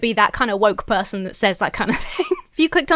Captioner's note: breaks into laughter